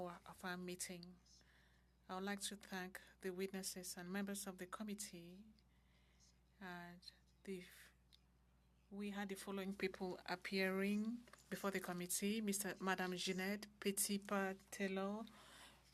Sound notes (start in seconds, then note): 1.4 speaking French